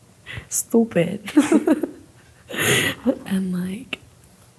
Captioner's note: laughs